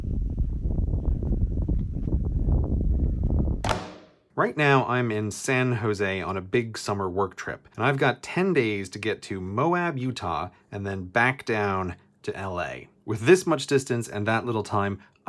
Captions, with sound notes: *CLUNK* Right now I am in San Jose on a big summer work trip. And I've got 10 days to get to Moab, Utah and then BACK down to L.A. With this much distance and that little time,